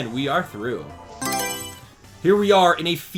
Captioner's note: Mario Selection Sound